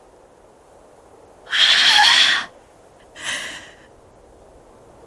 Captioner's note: sigh